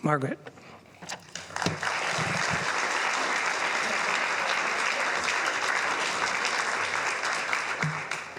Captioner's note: applause